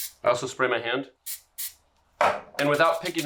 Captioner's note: cooking spray spritzing